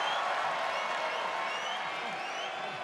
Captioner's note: applause